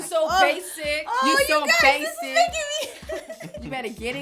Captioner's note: laughing